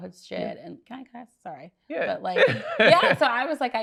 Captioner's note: laughs